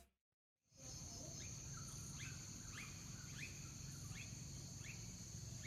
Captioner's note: birds chirping